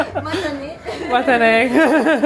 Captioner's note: all laugh; speaks Japanese; responds in Japanese